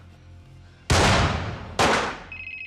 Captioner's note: gunshots; cell phone ringing